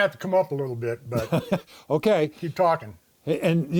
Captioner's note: laughs